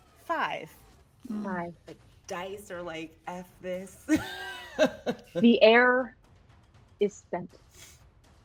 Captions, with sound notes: - Five. - Five. - Dice are like F this. (laughs) - The air is spent.